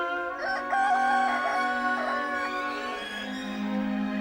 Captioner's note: rooster crows